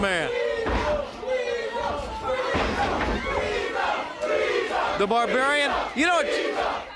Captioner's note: crowd chatter